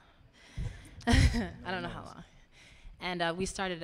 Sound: laughing

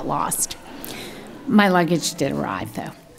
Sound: audience laughing

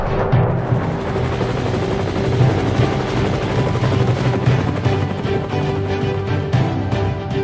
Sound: helicopter noise

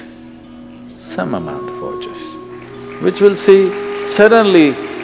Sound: applause

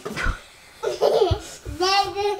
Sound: giggling

